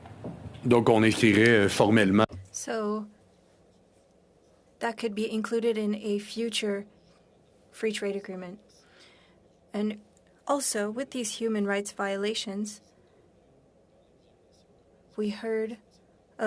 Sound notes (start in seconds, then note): 4.7 speaking French